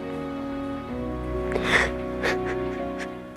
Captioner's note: crying